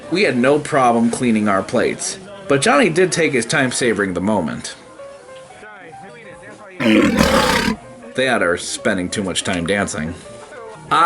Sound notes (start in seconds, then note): 6.8 monster growling